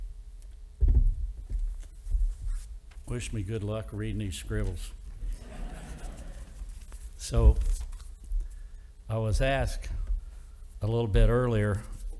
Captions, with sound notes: Wish me good luck reading these scribbles. (audience laughing) So I was asked a little bit earlier